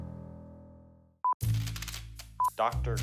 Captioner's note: signal beeps; triumphant music; signal beeps